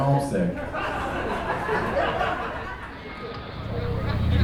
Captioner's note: audience laughing